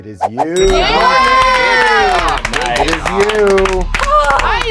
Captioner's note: all cheering